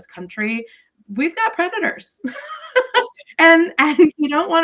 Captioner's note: laughs